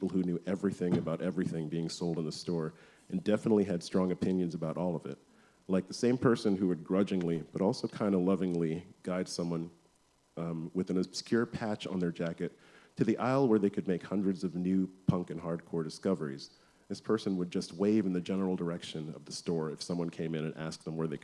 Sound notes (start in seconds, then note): none